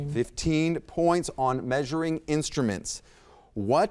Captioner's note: none